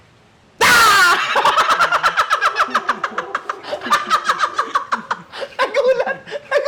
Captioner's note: screams; laughs